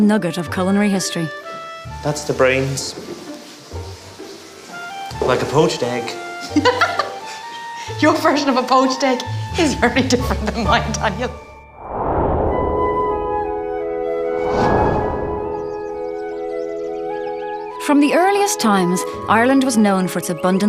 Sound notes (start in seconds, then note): 6.4 laughter; 14.5 soft classical music